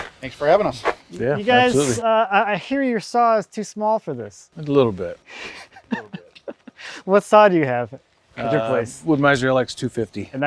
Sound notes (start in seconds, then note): 5.5 chuckles